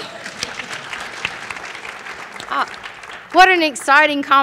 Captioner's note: applause